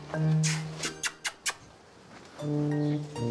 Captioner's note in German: Locklaute